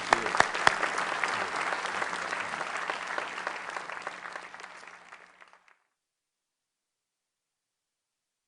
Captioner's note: applause